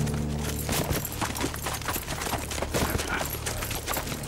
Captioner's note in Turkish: At nalı sesleri